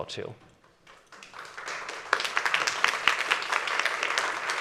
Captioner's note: audience applauding